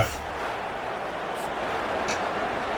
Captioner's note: crowd Noises